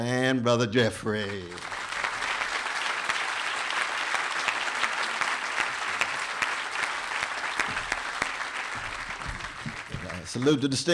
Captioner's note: applause